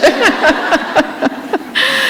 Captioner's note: laughter